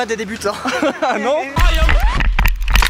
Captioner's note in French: rire; musique swaggy